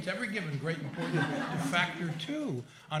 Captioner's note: laughter